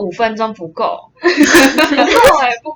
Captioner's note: laughter